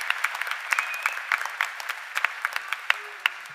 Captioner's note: cheers and applause